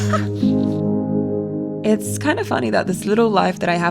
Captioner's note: person laughing